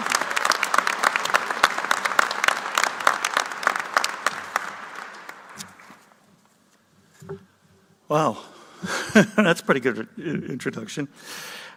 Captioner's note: applause